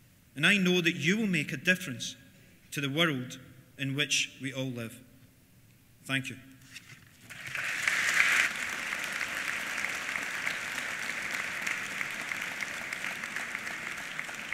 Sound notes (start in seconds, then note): 7.2 applause